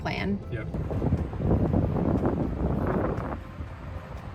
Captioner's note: wind blowing